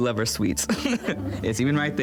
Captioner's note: everyone laughs